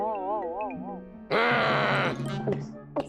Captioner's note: growling; gulps